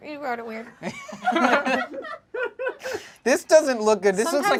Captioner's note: group laughs